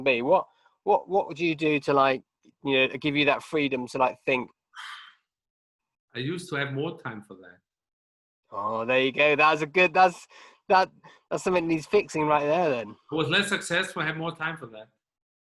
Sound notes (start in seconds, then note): 4.8 sighs